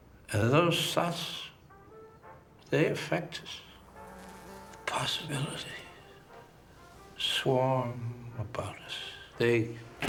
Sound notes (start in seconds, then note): none